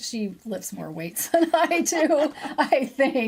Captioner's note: laughing